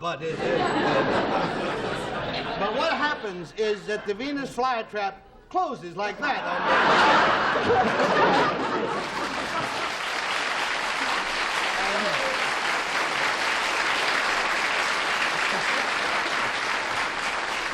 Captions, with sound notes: But-- but what happens is that the Venus flytrap closes like that. [applause]